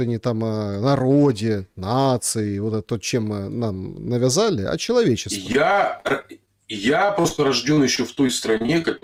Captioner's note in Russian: откашливается